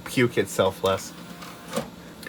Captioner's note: soft clunk as CD drive closes